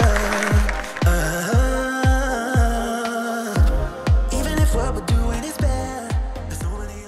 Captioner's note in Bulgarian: аплодисменти